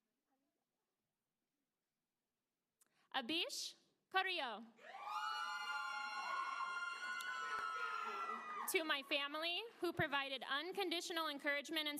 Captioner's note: applause